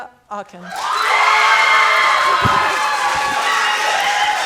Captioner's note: audience cheering